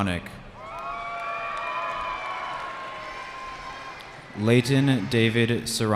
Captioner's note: cheering